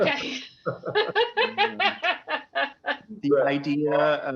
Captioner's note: laughter